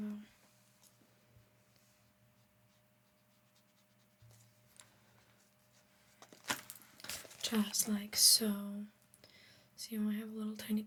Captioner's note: silence